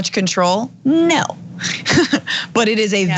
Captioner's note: laugh